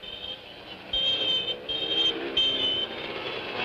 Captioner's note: horns honking